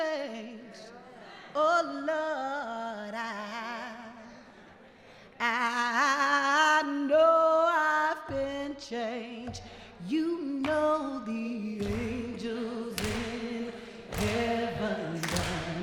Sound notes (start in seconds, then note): 9.1 tapping on podium; 11.7 audience clapping and singing along